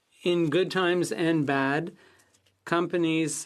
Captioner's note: speaking FRENCH